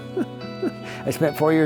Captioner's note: laughs